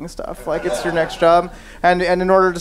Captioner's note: audience laughing